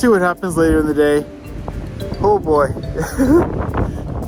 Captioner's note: laughs